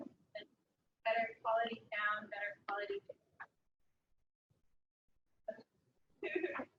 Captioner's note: audio drops; audio drops